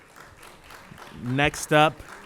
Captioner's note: applause